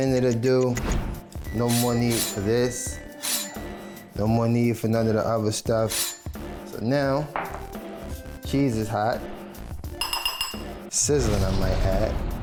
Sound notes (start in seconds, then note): 3.0 microwave beeps; 10.0 glass clatters